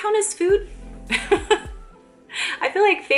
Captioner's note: laughs